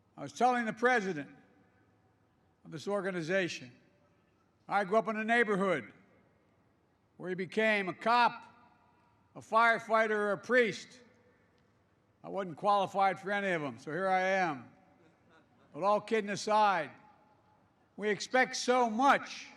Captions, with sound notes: I was telling the president of this organization, I grew up in a neighborhood where you became a cop, a firefighter, or a priest. I wasn't qualified for any of them, so here I am. (Laughter.) But all kidding aside, we expect so much